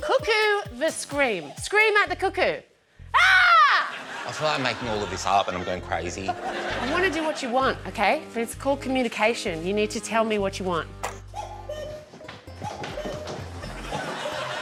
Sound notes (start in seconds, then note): 3.1 screams